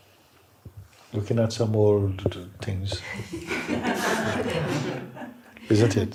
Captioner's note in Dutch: gelach